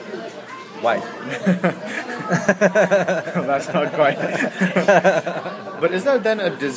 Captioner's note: laughs